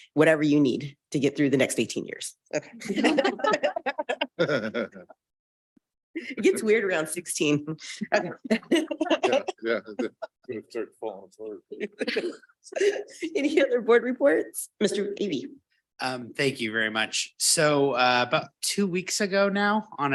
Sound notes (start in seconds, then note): 2.8 board members laughing; 4.5 board member chuckling; 8.4 board members chuckling; 11.7 board members laughing